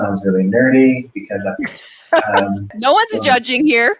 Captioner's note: laughing